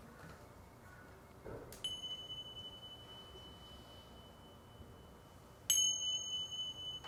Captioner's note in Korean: 소리 명상의 종료를 알리는 경쾌한 종소리